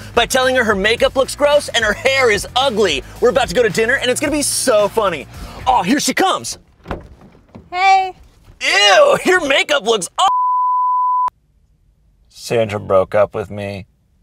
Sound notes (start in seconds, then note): 10.2 beep